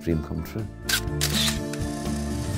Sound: camera snapping; light music

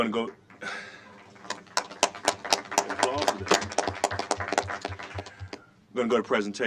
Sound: applause

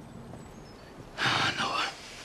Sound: sighs

